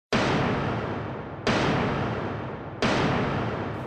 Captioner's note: gavel banging